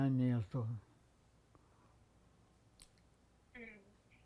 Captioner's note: pause 7 seconds